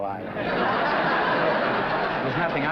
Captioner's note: laughter